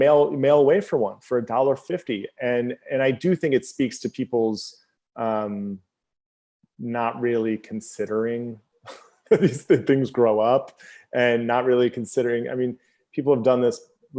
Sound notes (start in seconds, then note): 7.7 laughs